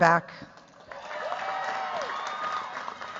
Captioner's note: cheers, applause